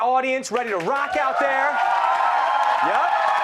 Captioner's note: cheers